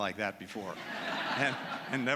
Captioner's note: laughter